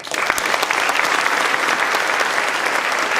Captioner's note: applause